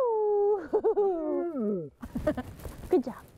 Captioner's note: laughs